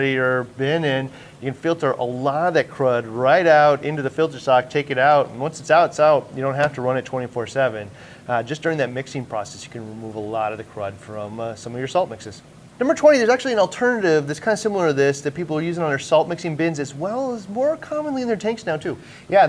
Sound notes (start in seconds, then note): none